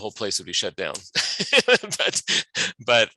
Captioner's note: laughing